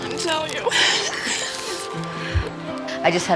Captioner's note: crying